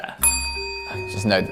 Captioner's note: bell dings